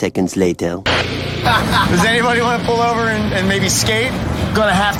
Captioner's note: radio